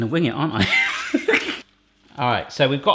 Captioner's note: laughs